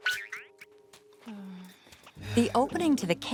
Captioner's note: caterpillar noises; sighing